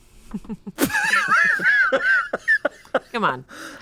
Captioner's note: group laughs